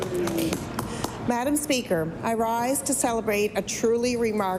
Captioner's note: applause